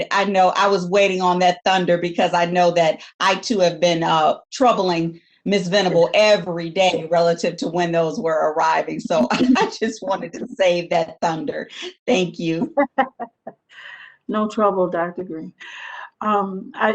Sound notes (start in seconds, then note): 12.6 laughs